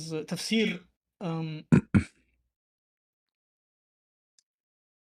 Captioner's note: clears throat